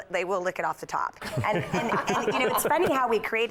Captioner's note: laughter